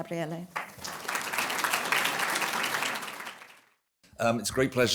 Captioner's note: applause